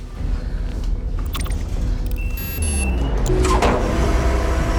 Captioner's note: machinery humming